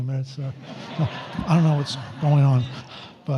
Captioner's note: audience laughs